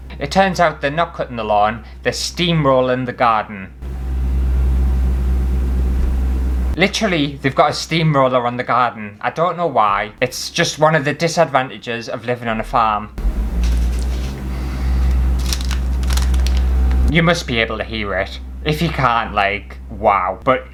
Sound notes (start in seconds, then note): 3.7 rumbling Noises; 13.5 rumpling Noises